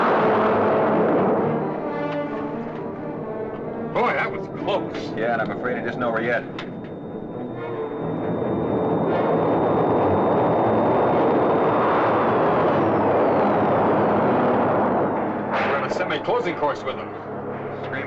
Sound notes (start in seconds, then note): 7.8 suspenseful music; 11.4 whooshing